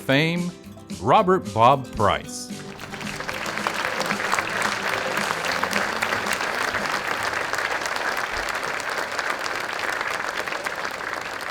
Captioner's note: applause